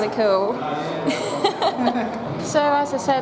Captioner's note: laughs